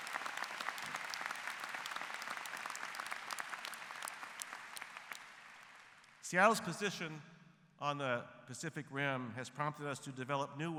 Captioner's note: applause